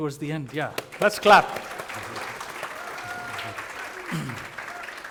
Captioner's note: applause